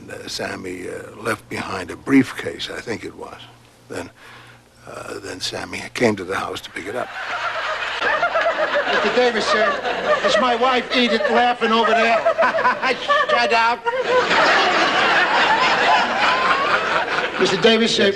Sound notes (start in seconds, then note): 9.1 laughing hysterically